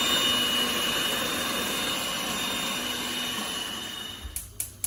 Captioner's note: blender whizzes